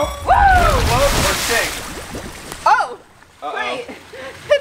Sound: shouting

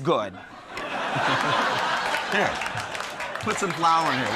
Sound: Ron and crowd laughs

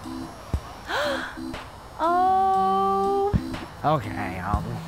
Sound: gasp

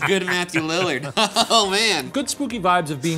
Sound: laughing

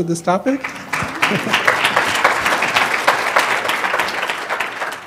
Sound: applause

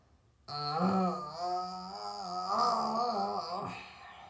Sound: groaning

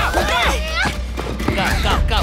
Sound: Angela grunting

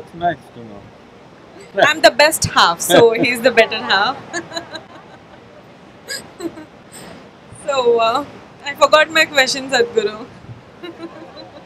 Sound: laughter; laughs

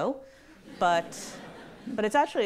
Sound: audience laughs

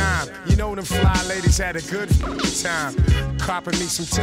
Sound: rapid beeps

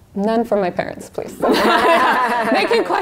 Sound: laughter

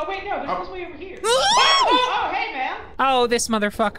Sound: all scream

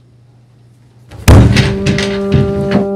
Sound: bang; somber music

